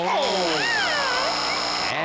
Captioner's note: buzzer